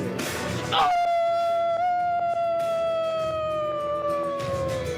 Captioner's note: WOLF Howls